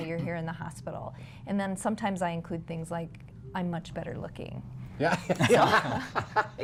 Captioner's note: laughter